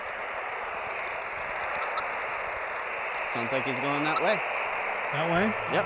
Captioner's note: radio static